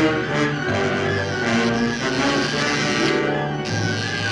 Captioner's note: buzzing